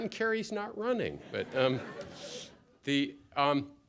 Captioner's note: laughter